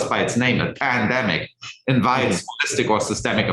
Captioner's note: indistinct conversation